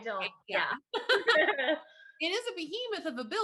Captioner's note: laughs